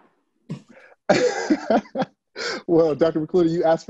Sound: laughs

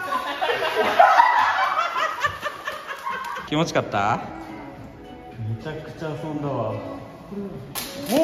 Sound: applause

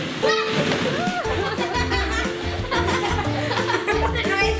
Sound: laughing

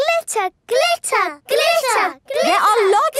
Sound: chanting

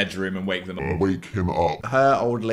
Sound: distorted voice

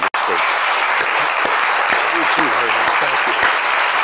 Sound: applause

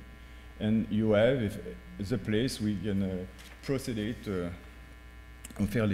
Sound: speaking french

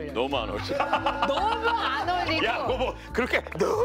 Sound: cracked up

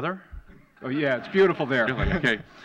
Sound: laughter

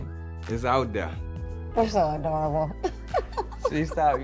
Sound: laughs

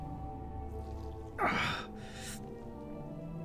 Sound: grunts in pain

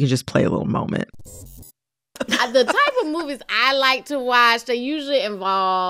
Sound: soundbite of archived npr broadcast

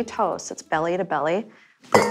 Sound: clink echoes

